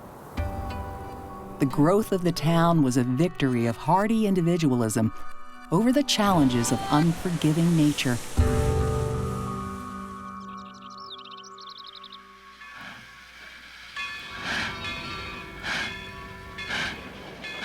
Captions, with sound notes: The growth of the town was a victory of hardy individualism over the challenges of unforgiving nature. [birds chirping] [steam engine chugging]